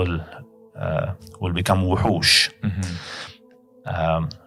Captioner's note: Arabic